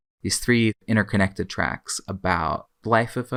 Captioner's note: none